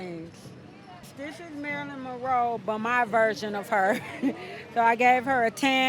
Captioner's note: laughs